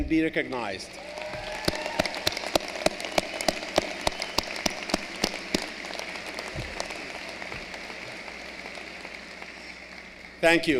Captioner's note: applause